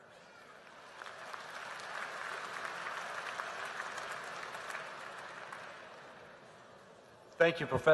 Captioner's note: applause